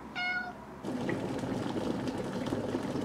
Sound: water bubbling

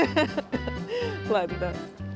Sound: cough and laugh; laugh; sigh

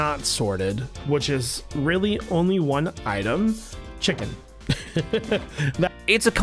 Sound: laughs

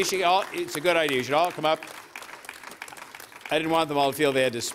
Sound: applause

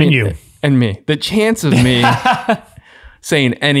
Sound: laughs

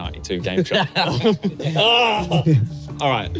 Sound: laughing

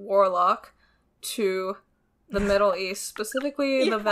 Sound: laughs

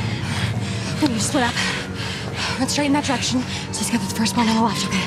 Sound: siren blaring; intense orchestral music

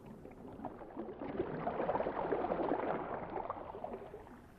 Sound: the rush of water intensifies

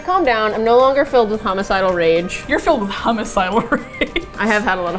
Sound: laughs

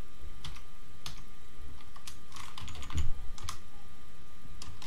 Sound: keyboard clicking

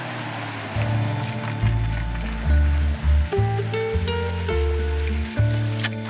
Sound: engine rumbling; upbeat music

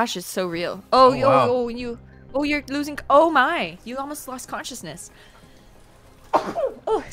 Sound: sneeze

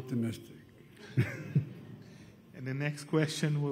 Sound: laughter

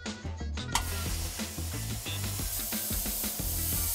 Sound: buzzing

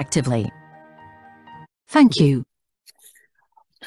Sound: voice-over

